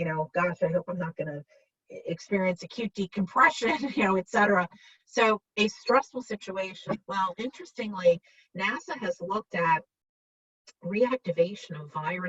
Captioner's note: laughs